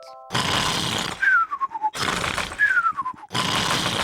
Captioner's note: sighs happily; george snores loudly